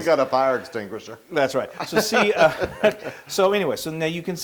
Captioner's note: laugh